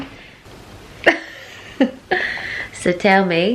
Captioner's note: laugh